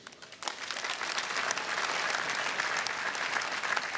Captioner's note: audience applauding